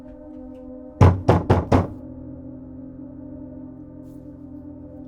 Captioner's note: banging on door